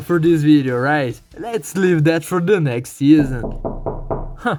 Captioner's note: knock knock